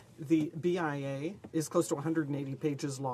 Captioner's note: speaking French